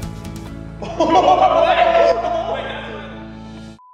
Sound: laughing

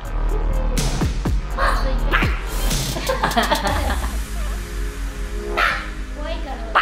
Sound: barked

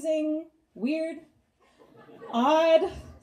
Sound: audience laughs

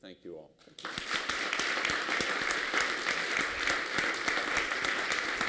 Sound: applause

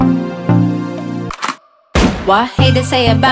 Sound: gun cocks; gunshot fires

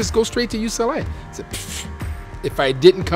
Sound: puffs

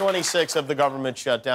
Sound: applause

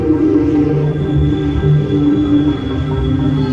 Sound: brakes squealing; man shouting

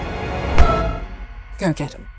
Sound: slap

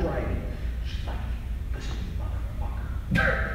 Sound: laughing

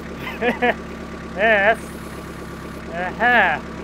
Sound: laughs

